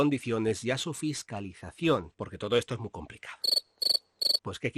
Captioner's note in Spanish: sonido de grillos